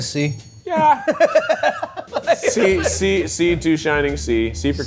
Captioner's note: laughs